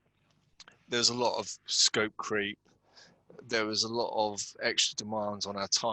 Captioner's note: murmurs